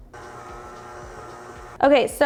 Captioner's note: mixer whirring